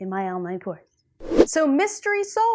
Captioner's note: air whooshing